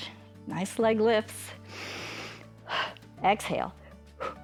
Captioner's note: inhales